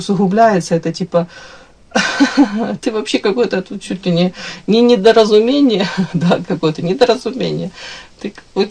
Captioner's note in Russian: смех